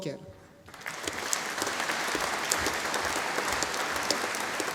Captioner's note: audience applauding